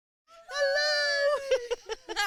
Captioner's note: laughter